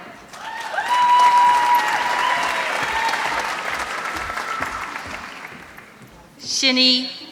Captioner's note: applause